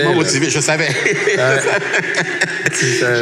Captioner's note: laughs